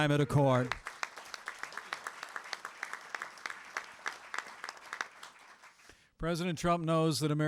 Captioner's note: applause